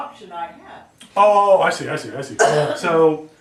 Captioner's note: student coughs